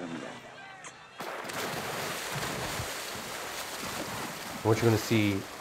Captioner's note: water splashing on screen